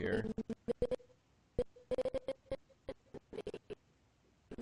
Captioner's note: audio skipping